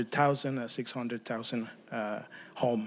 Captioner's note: speaking spanish